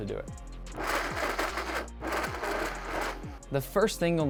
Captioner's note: blender whirring